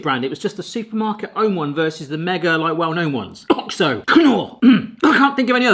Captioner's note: coughs brand names